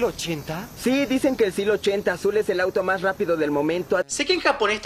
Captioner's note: in Latin Spanish